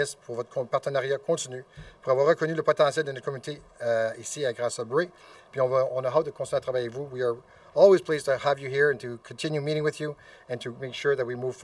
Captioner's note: speaking French